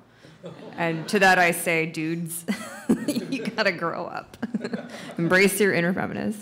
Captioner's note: laughs